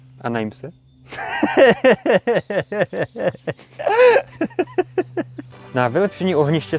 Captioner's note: wandering devilish laughter